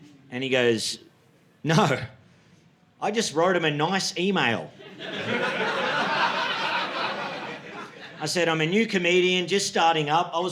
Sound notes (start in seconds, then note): 4.8 audience laughing